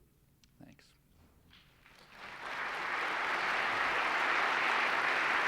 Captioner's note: applause